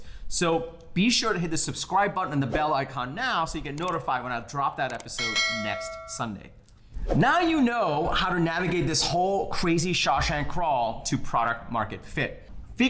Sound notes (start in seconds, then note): 5.2 bell clanging